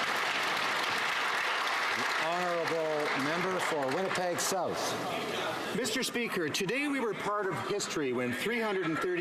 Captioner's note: applause